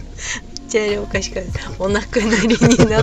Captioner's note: laughs